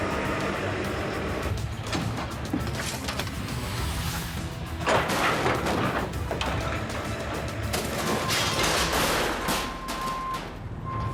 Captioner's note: intense music; trucks revving